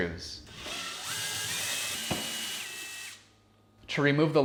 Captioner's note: drill whirring